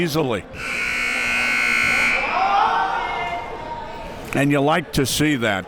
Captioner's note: siren blaring